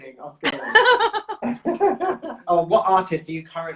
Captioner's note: laughs